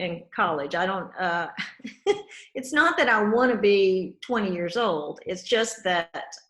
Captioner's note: laughs